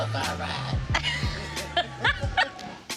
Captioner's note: laughs